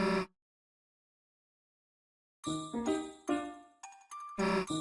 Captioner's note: snort